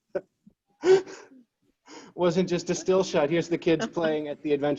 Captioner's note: chuckles